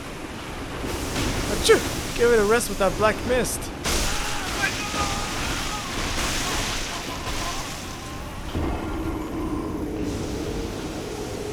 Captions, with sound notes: *sneeze* Give it a rest with that black mist! *horrying death screech*